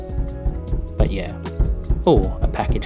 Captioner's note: door Knocking